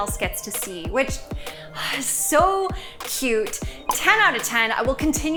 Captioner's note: sighs